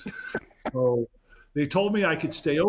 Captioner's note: laughing